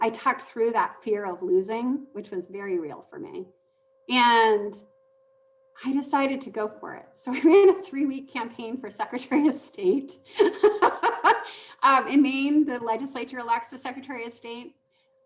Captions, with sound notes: I talked through that fear of losing, which was very real for me. And I decided to go for it. So, we ran a three week campaign for secretary of state. (laughing) In Maine the legislature elects the secretary of state.